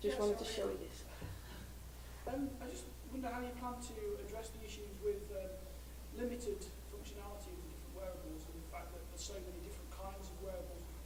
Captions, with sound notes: - Just wanted to show, oh yeah-- - [Voiceover] I just wonder how you come to address the issues with limited functionality with wearables and the fact that there's so many different kinds of wearables